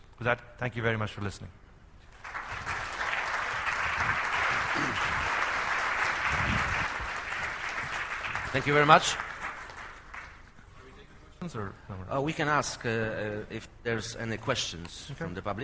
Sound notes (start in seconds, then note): 3.6 applause